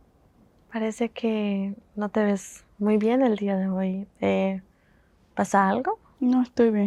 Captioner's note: Spanish